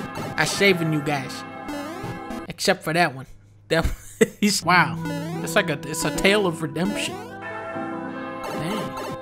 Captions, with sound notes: I'm saving you, guys. Except for that one. That one- (Laughs) His- Wow! It's like a- It's a tale of redemption. Dang!